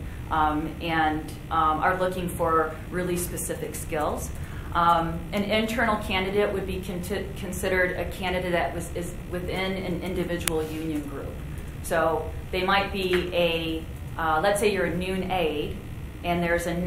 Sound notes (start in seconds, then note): none